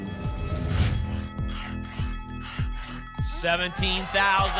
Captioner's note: alarms; whoosh; scratching sounds